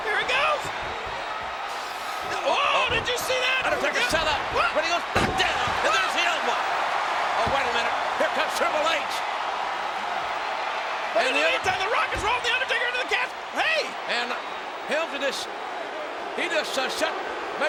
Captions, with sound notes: Here it goes. Oh, did you see that? Undertaker sat up. But he goes back down. And there's the elbow. (audience cheers) Oh, wait a minute. Here comes Triple H. In the meantime, the Rock is rolling The Undertaker into the casket. Hey. And Hemlsley just. He just shut.